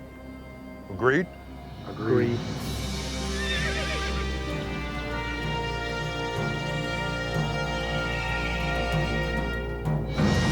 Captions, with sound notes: - Agreed. - Agreed. (horse neighs) (orchestral music)